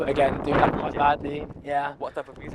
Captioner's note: wind blowing